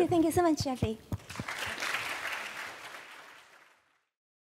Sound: applause

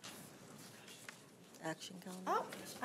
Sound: trustees chattering

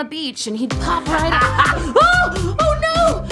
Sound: laughs

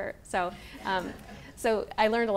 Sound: people laughing

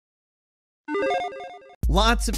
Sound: video game bleeps

